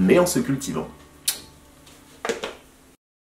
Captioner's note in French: bisous qui claque